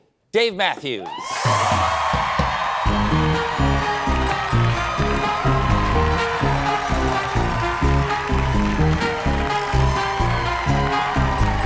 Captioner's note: cheers and applause